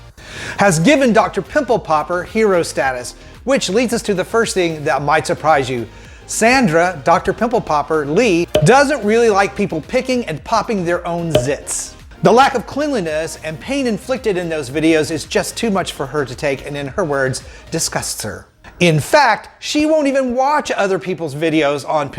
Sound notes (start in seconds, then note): 8.5 cork popping; 11.3 cork popping